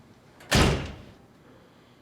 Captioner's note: door shut